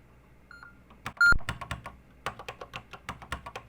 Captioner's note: typing on a C64 keyboard